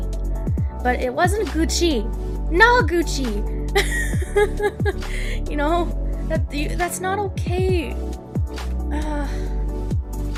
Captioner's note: nervous laughter